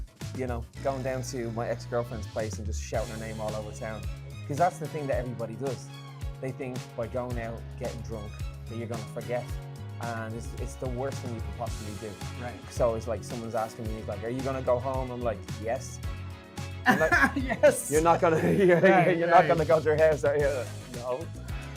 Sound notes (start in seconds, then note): 16.8 laughs